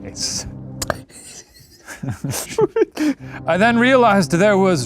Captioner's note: laughs